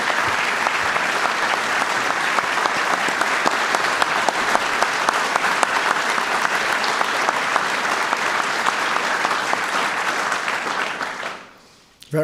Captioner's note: applause